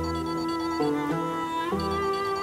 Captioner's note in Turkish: Telefon çalıyor